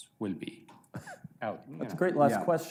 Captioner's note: laughs